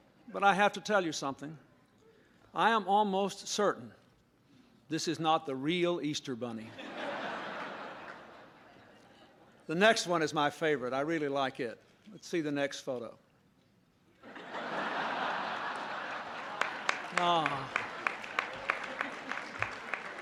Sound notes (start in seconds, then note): 6.7 laughter; 14.2 laughter; 19.9 applause